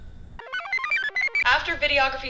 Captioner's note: computer chirps